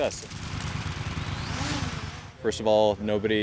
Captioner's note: motor whirring